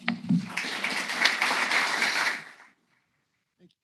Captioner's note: applause